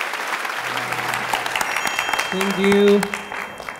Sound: a round of applause

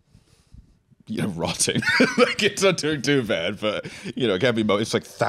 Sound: laughs

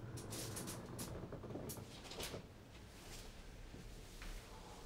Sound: bed creaks quietly

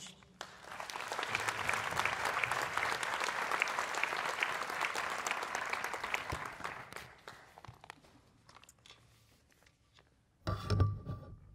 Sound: applause

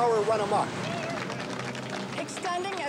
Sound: people applauding

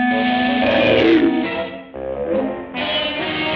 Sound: croaking

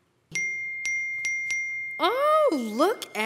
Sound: ding, ding, ding, ding

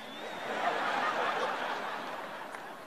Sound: laughter

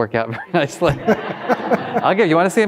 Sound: all laughing

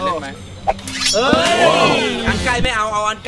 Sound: cheering

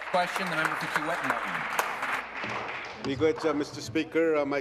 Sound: applause

